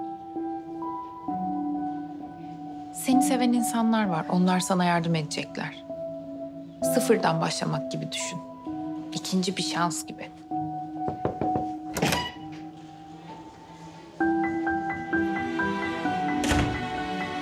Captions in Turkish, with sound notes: Seni seven insanlar var, onlar sana yardım edecekler. Sıfırdan başlamak gibi düşün. İkinci bir şans gibi. (Kapı vuruldu) (Kapı açıldı) (Duygusal müzik)